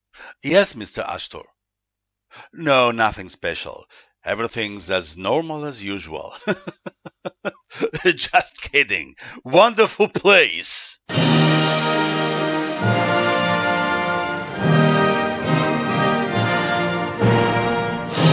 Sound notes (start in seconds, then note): 6.2 laughter